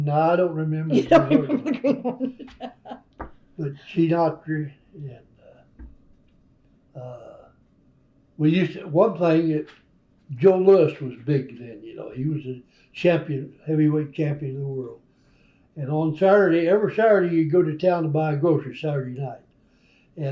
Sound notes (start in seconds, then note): 2.8 laughter; 6.7 laughs